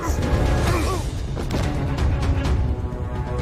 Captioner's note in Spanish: Quejido